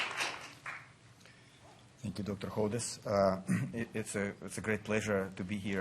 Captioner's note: applause